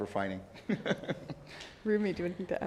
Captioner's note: all laugh